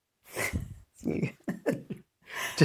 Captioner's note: laughs